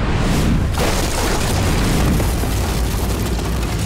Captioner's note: clattering